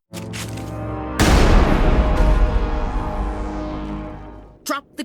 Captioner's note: boom